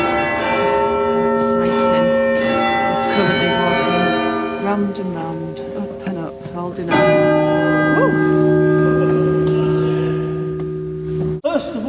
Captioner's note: bell Chime